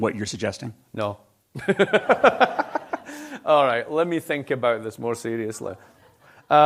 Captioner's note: laughter